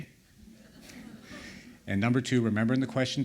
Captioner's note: laughter